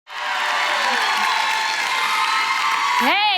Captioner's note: audience applauds